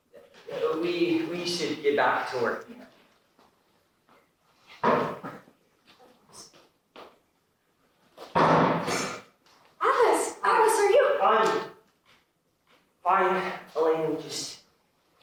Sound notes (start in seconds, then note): 8.4 thunk!